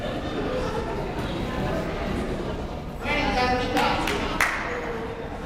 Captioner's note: crowd murmuring